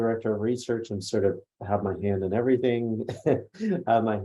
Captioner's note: laughs